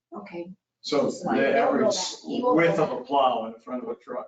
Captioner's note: people chattering